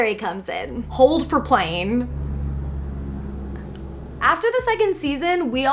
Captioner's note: plane engine whirs